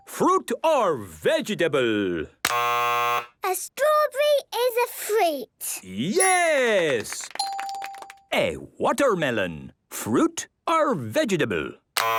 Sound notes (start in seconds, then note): 2.5 buzzes; 6.7 clapping